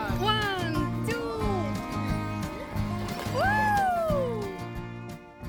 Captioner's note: splash